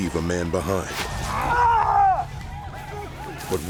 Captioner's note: yells in pain